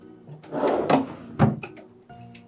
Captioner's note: sound of closing a drawer